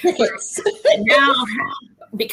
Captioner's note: laughs